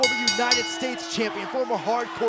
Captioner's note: bell ringing